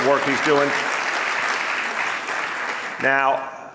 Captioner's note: audience applauding